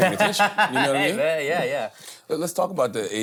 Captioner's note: laughs